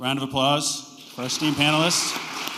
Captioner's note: applause